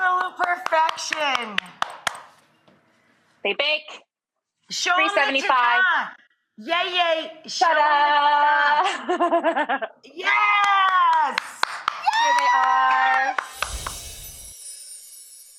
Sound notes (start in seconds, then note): 0.1 claps; 8.8 Molly laughs; 10.6 claps